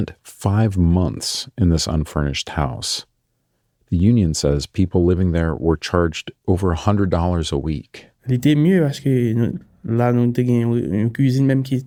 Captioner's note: speaking Creole